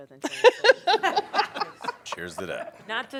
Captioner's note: laughter